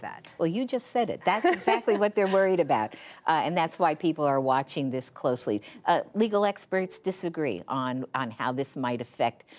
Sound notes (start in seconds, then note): 1.4 laughter